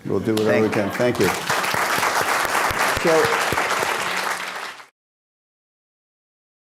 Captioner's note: applause